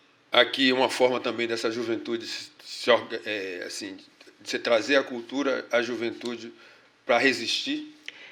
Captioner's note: speaking portuguese